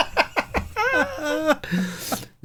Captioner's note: laughing